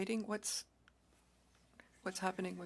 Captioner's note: speaking French